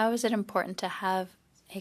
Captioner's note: speaking in French